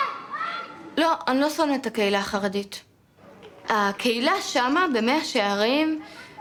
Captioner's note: speaking in foreign language